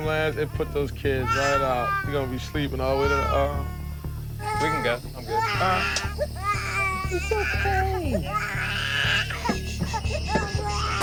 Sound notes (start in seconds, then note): 6.8 crying